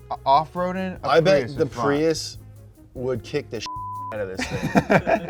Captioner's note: beep; all laughing